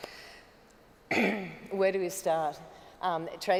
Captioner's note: clears throat